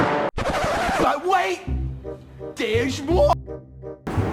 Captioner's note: record scratch